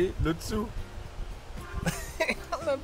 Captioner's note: laughing